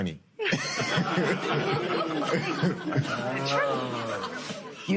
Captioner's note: laughs